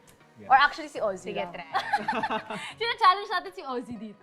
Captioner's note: both laugh